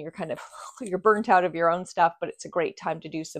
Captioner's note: sighing